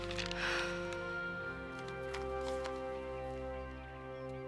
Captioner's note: dramatic orchestral music continues; Lisa exhaling